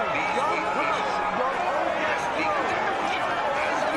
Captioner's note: man over speakers